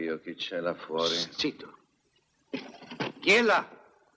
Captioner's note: clattering